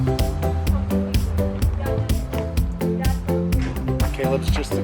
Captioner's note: cheerful music; kids chattering